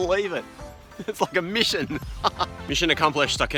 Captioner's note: laughs